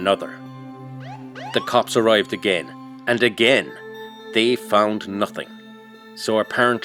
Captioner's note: police Siren